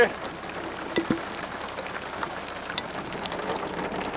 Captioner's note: sound of hail